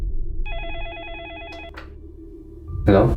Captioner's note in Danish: telefonen ringer